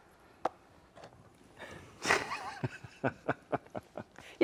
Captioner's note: both laughing